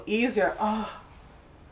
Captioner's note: sighs